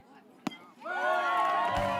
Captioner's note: cheers; baseball hit